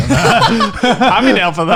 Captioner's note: laughing